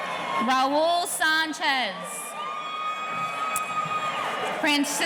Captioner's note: audience cheering